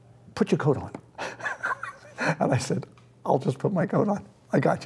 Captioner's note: laughing